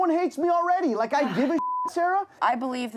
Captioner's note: beep